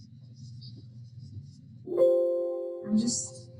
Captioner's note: computer chiming